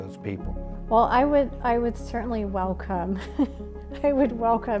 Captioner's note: chuckles